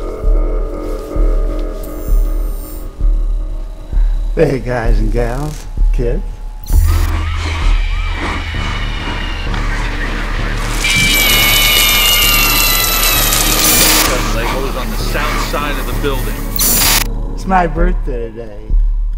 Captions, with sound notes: Please Follow @GunnaManeHSMG NOW! Kids... **sounds of fire and vehicles** **scream sound of foxy* The fire has started on the south side of the building... It's my birthday today...